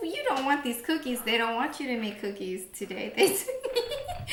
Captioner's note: laughing